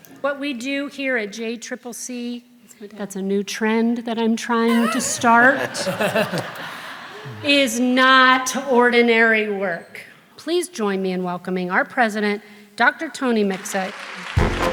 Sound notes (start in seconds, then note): 6.2 audience laughs; 14.3 excited music